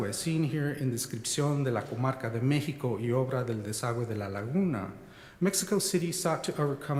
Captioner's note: speaking spanish